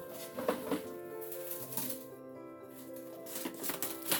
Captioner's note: plastic rustling